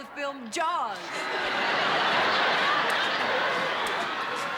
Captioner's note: laughter